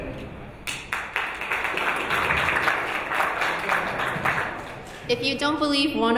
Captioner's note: audience applauding